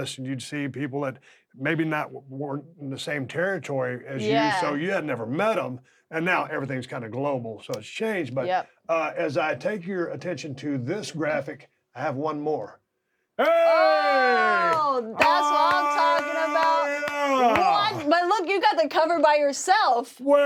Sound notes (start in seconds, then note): 17.7 clapping